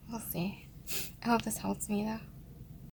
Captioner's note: sniffles